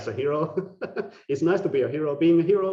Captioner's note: laughing